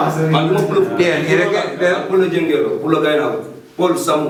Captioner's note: wolof